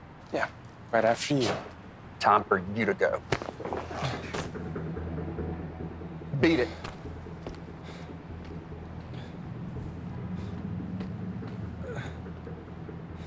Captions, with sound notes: - Yeah, right after you. - Time for you to go. (Matt crashes) Beat it. (dramatic music)